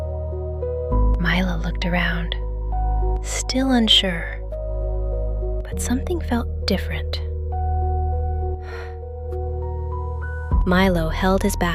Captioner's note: exhales